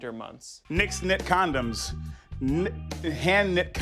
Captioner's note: stutters